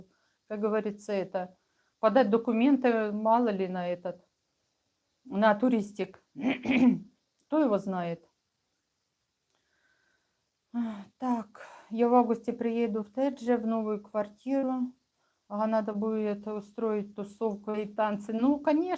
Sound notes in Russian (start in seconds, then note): 6.5 откашливается; 8.6 фыркает